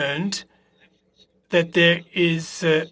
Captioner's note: speaking French